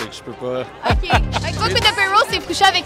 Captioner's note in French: rires